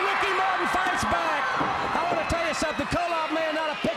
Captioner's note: crowd cheering